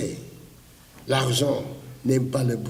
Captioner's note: foreign language